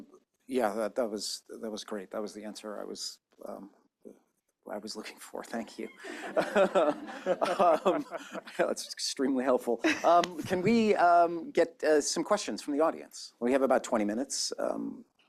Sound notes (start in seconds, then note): 5.9 laughter